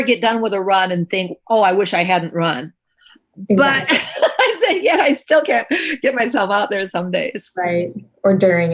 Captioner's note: laughs